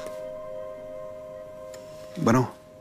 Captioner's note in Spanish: Suena el celular